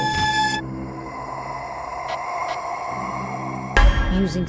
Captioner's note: ghostly whispering